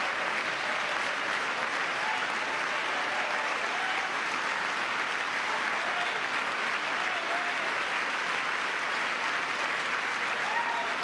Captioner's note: cheering; applause